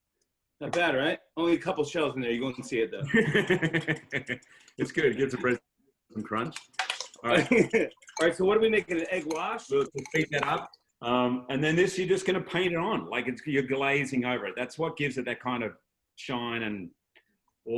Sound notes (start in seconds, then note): 2.4 laughing, whisking; 7.1 laughs